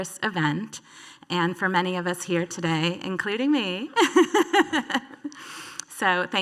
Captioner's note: laughs